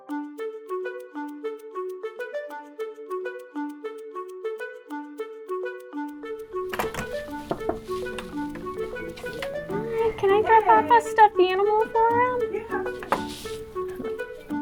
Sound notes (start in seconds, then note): 0.1 bright music; 6.6 knocking